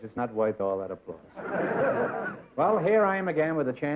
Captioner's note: laughter